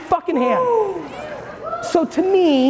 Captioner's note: audience hooting